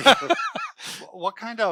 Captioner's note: laughing